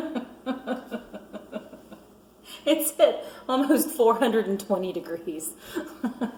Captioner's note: laughing